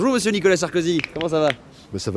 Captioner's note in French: craquements de doigts x1